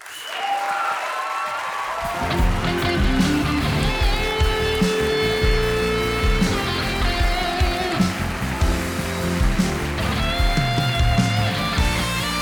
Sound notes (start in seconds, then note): 0.7 audience cheering; 2.9 audience applauding; 4.1 upbeat music